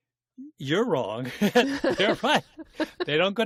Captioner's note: laughter